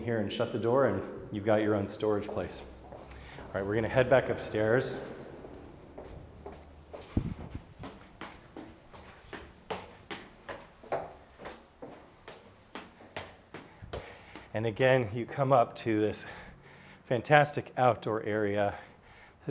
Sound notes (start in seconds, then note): 5.2 soft footsteps; 8.4 footsteps thumping